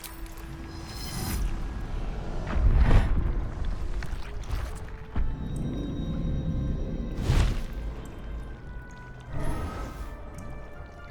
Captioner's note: mind meld warble, pod opening rumble, wings flapping